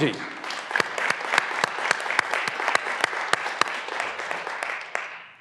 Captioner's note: graduands applauding